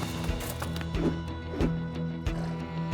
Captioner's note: ropes whirling; horse blusters